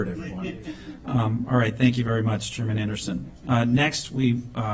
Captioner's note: laughter